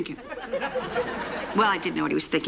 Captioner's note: laughter